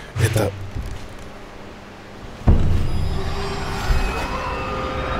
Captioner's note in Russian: Звук удара